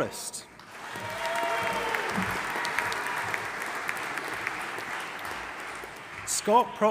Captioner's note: audience applauding and cheering